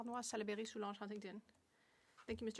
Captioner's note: speaking French